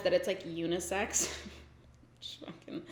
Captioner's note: giggles